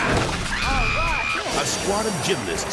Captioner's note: screams